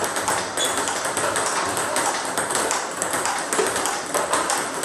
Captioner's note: balls ping pong hitting continues